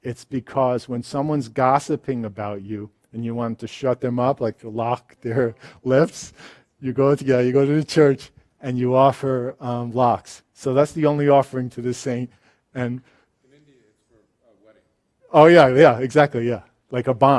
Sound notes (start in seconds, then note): 6.2 laughs; 13.6 voiceover